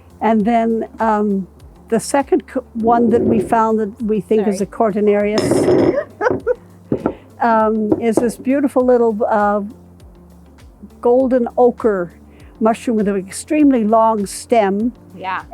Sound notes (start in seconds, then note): 5.2 glasses clinking; 5.9 laughing